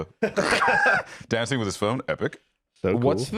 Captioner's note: laughs